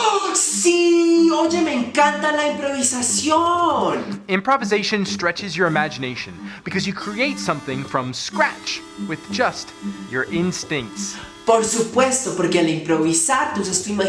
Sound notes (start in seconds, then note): 0.5 gasps